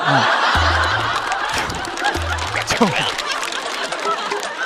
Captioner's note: laughing out of frustration